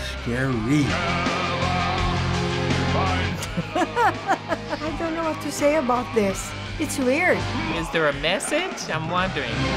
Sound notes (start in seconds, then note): 0.0 singing in German; 3.3 chuckles